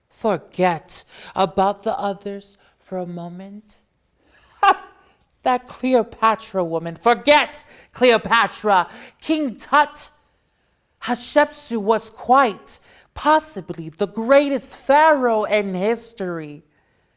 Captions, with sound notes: Forget about the others for a moment. (laughs) That Cleopatra woman, forget Cleopatra. King Tut Hatshepsut was quite possibly the greatest Pharaoh in history.